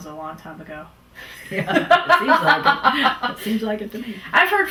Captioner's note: laughter